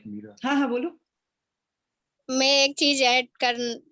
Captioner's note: speaks foreign language